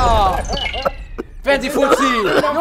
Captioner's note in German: Husten